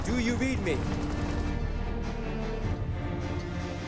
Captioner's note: gunshot